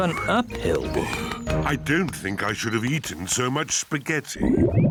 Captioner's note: groans; tummy rumbles